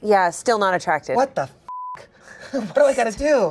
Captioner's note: beep